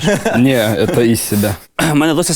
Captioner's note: spoken in Russian